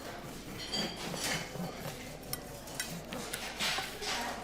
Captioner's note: conversation, clattering of dishes in the background